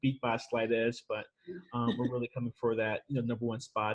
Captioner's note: chuckles